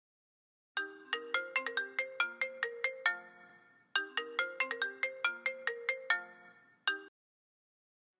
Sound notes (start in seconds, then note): 1.3 Phone ringing